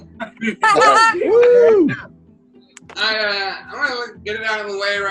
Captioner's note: people cheer and applaud